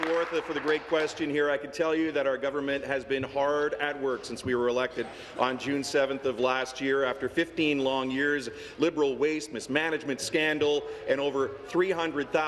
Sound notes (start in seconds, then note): 2.2 some Applause